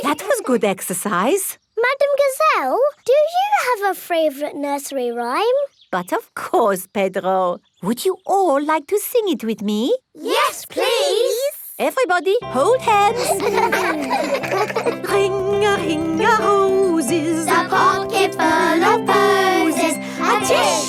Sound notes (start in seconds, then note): 0.0 all giggling; 13.0 giggling